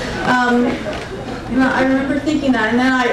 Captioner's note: crowd giggling